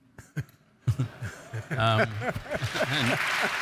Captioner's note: audience chuckles; audience applauds